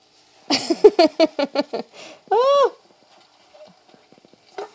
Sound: Claire laughing

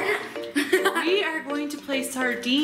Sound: laughs

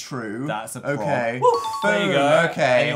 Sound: cheerful and successful sound effect

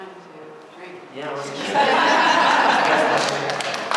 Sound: laughter; applause

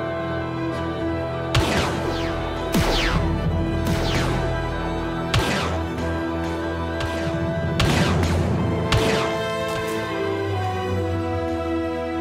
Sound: blaster fire

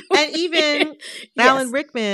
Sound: laughter

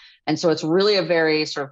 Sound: none

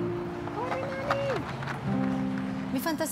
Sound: speaks spanish

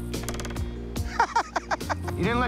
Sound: laughs

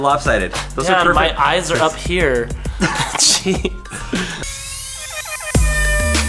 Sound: laughing

